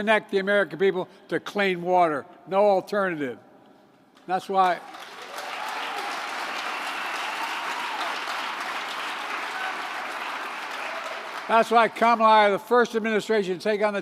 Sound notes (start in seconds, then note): 9.7 applause